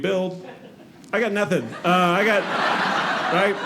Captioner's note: audience laughing